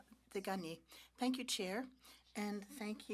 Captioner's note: speaking French